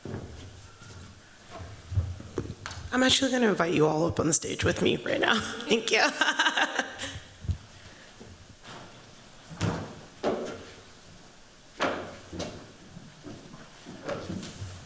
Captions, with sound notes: I'm actually going to invite you all up on the stage with me right now. Thank you. [CHUCKLING]